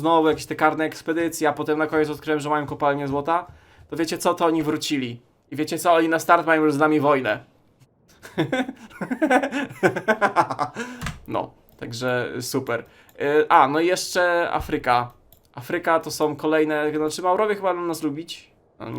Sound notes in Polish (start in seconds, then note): 8.2 śmiech